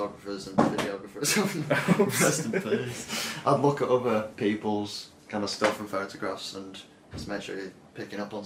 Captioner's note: laughing